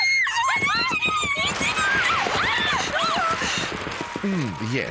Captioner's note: chattering